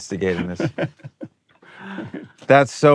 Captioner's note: laughs